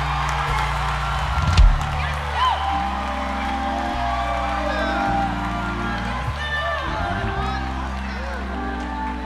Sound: audience cheers

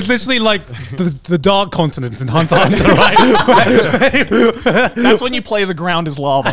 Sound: laughing

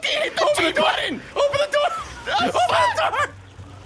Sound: screaming

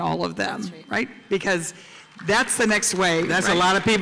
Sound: applause

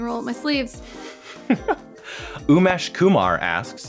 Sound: laughs

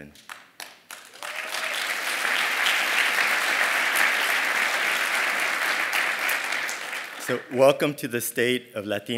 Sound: applause

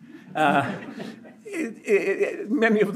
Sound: audience laughs

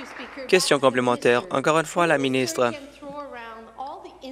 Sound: applause

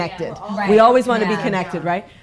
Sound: women agreeing

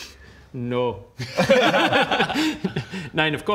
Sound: selfish laughter

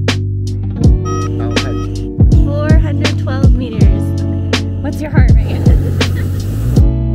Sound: laughing

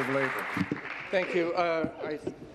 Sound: applause

